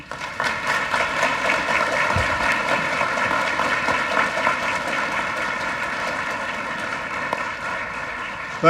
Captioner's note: applause